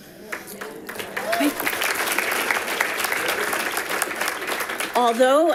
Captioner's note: audience applauding